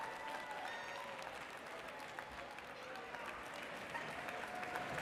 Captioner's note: audience cheers